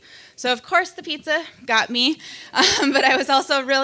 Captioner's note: laughs